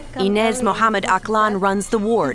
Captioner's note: through translator